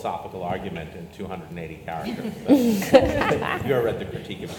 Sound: panelists laugh

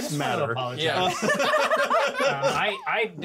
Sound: laughs

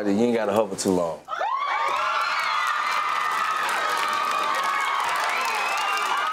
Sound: audience cheer and applaud

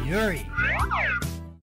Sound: slide whistle

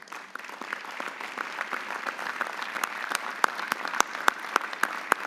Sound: audience applauding

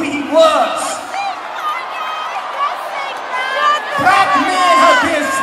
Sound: audience Booing

